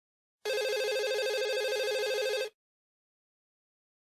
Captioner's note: phone ringing